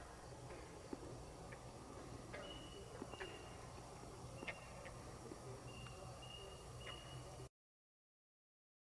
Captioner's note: katydids forest sounds; silence